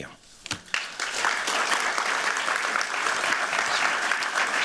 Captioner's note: applause